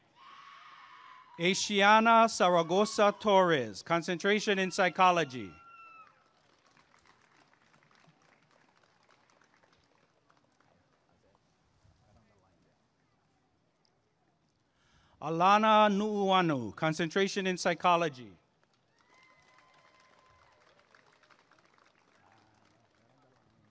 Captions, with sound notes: Asianna Saragosa-Torres Concentration in Psychology [applause and cheering] Alana Nuuanu Concentration in Psychology [applause and cheering]